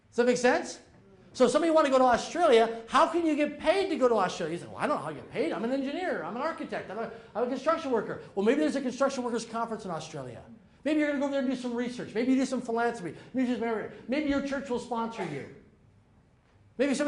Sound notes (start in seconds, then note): 13.6 slurs words